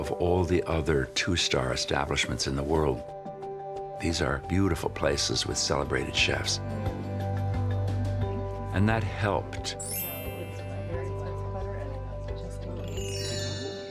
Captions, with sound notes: of all the other two-star establishments in the world. These are beautiful places with celebrated chefs. And that helped. (patrons chattering)